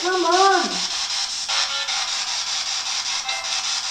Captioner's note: static